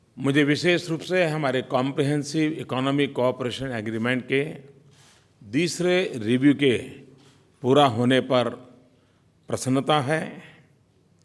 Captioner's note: PM Modi speaks in Hindi